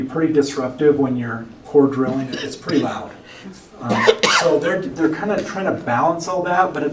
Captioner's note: cough